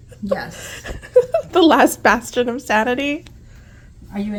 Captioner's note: laughs